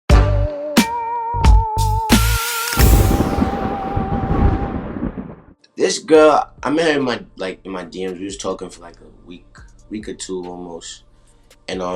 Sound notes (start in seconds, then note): 0.1 spooky music plays; 2.8 thunder crashes